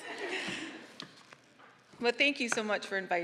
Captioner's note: all laughing